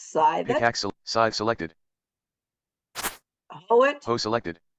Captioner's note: thwack